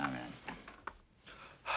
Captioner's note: exhales sharply